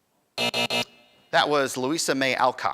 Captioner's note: end time buzzer rings